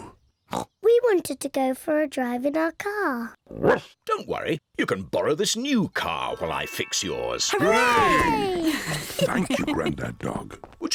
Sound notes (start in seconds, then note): 0.3 oinks; 3.2 barks